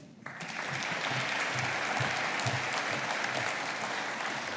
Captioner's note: audience applauding